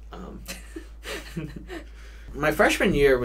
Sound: both chuckle

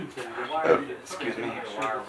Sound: burping

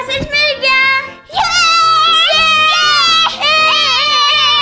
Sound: cheers

